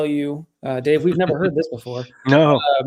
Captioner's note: both chuckling